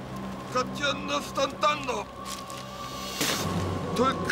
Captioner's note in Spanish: discurso en otro idioma